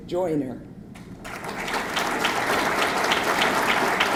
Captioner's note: audience clapping